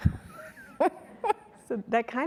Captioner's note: laughing